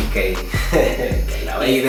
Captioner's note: haha